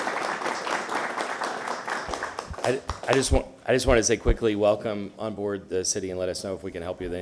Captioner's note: applause